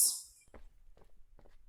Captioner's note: footsteps leaving